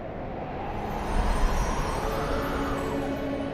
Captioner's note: wind whooshing